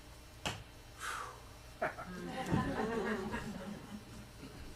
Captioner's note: laughter